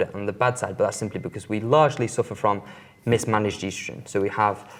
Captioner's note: bell rings